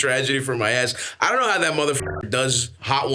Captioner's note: beeps